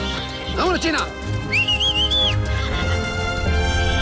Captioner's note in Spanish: Silbidos